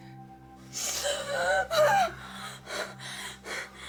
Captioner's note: gasping